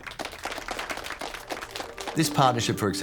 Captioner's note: audience applauding